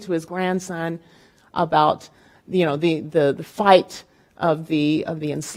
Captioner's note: speaking in Spanish